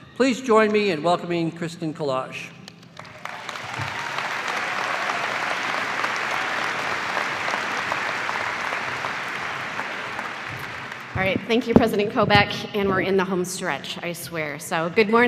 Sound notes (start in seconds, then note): 2.9 cheers and applause